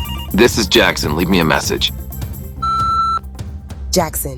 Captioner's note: phone rings